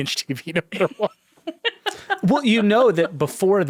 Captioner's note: chuckles; chuckling